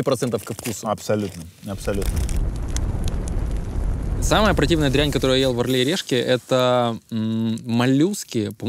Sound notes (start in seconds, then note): 1.6 flames crackling